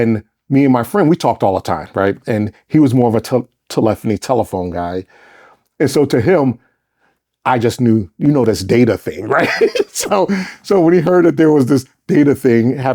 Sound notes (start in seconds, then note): 9.2 laughs